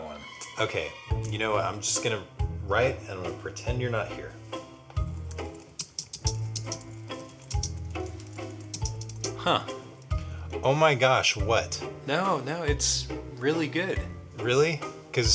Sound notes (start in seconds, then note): 5.1 typing